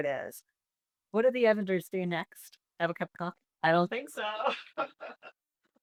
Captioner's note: laughs